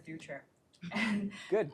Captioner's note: laughter